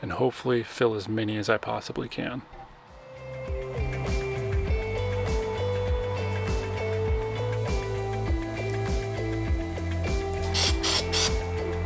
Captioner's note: gentle music; sander whirring